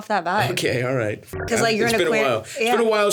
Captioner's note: beeps